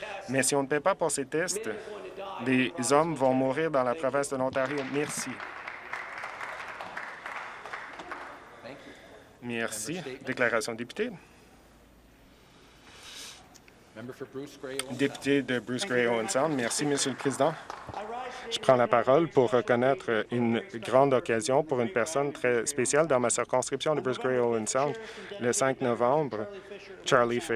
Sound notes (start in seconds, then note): 8.3 applause